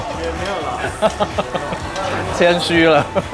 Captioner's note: laughter